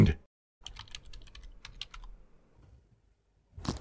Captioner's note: typing